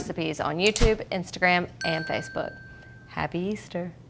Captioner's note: bell ringing